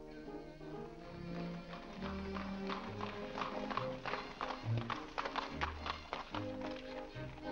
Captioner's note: piano plays; hooves trotting; ballroom music